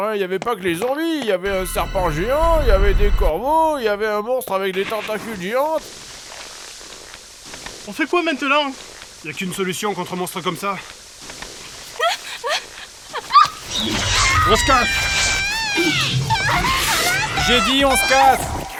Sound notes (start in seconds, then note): 11.8 frightened squeaks; 13.2 big screams + Disgusting tentacles noises